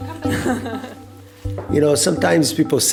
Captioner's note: person chuckles